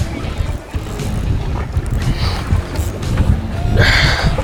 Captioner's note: water swishes